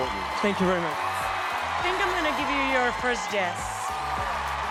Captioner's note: cheering